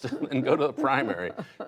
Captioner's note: laughter